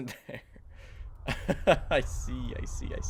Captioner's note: laughs